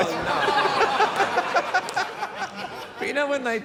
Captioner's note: laughter